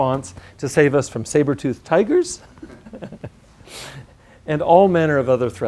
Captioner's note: laugh